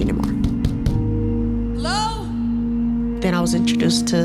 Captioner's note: knocking